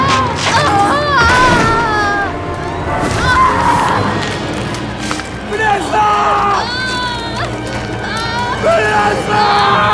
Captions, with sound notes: (screaming) - Vanessa! Vanessa!